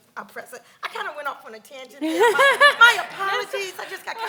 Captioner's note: laughs